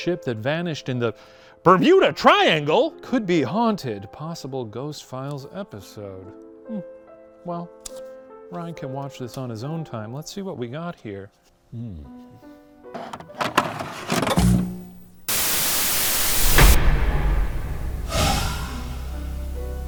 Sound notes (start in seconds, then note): 14.3 static crackling; 15.6 suspenseful music